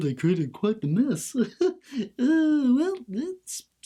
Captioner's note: laughs; sighs